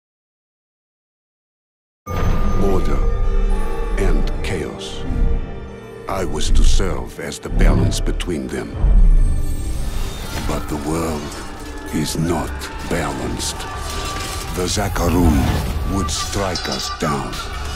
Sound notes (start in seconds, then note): 12.6 soldiers yelling